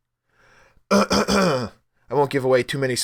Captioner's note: cough cough